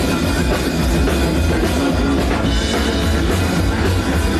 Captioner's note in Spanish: voces